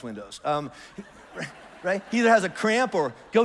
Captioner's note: congregation laughs